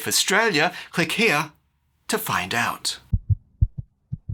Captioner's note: heart beats